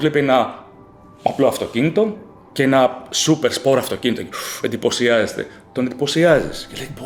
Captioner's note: laughs